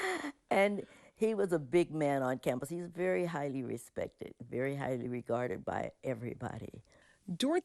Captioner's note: laughter